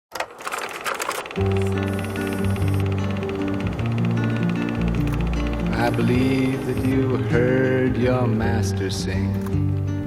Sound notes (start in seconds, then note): 0.2 mechanical clicking